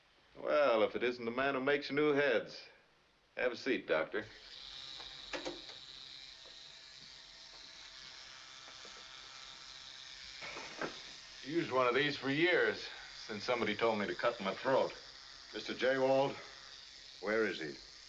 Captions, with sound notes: Well, if it isn't the man who makes new heads. Have a seat, Doctor. [Shaver Buzzing ] Used one of these for years, since somebody told me to cut my throat. Mr. Jawald. Where is he?